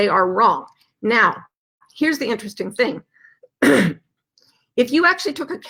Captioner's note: clears throat